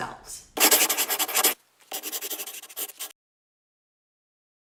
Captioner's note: scribbling